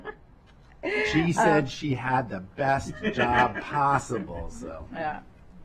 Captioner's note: laughter